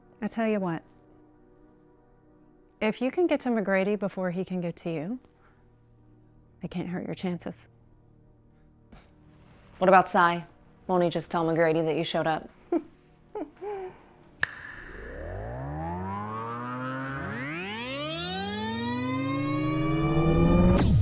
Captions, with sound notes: - I tell you what, if you can get to McGrady before he can get to you, I can't hurt your chances. - What about Cy? Won't he just tell McGrady that you showed up? (Elder laughing) (fingers snapping) (warp whirring)